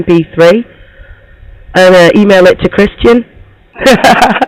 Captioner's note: laughs